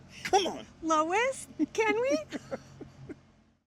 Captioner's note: laughs